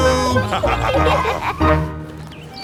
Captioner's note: laughter